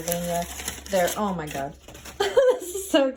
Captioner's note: laughs